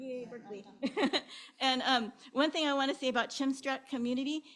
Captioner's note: chuckles